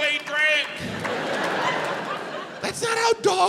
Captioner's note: audience laughs